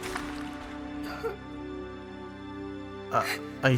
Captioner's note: Jay cries quietly